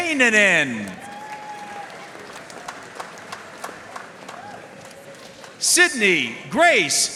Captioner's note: audience cheering and applauding